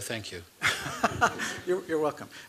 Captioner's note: laughter